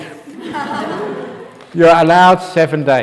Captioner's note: laughs